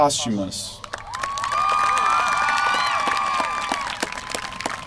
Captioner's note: applause